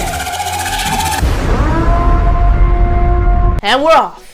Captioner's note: The purge sirens blares